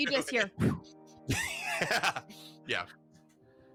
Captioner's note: whooshing